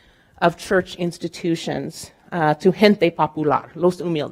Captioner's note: speaking in Spanish